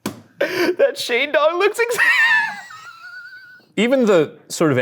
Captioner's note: laughing